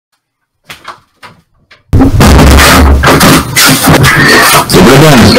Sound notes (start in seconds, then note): 0.6 door noises; 1.9 krsssh; 2.0 slam; 4.0 creature screech